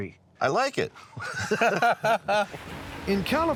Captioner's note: laughter